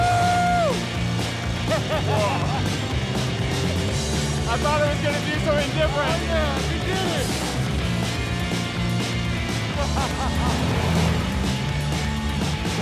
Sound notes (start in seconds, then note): 0.0 laughing; 9.2 laughing; 11.0 upbeat music continues